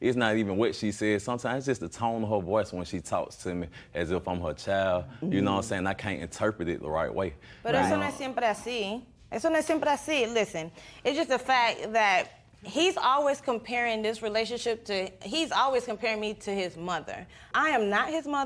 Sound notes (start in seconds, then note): 9.0 speaks Spanish